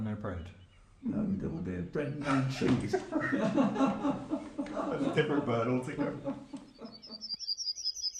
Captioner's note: laughs; Sound of Yellowhammer's call